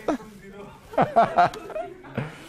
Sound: laughter

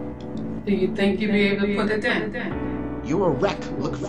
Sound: echo

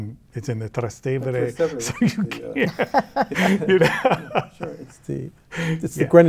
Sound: laughs

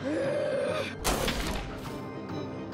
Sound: snarling; gunshots booming

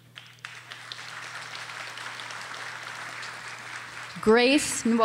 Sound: audience applauding

